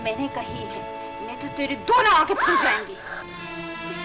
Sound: gasps

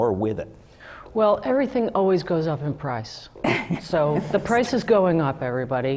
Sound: laugh

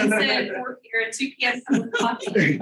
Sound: all laughing

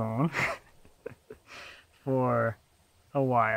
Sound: laughs

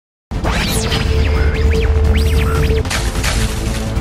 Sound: whirring; splashing

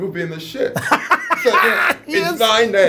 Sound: laughs

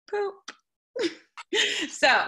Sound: laughter

